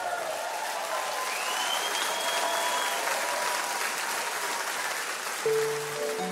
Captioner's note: audience applauds and cheers